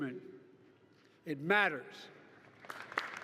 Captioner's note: applause